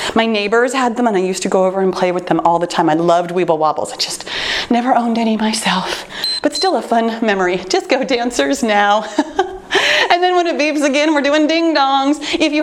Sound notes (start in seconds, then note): 6.1 timer beeps; 9.0 laughs